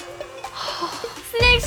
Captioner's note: nervous